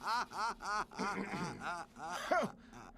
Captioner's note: Sam clears throat; Sam laughs